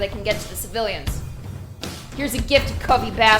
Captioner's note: angry knocking